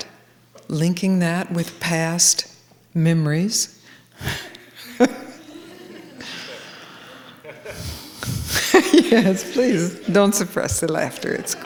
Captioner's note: laughter